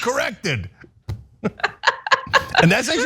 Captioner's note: laugh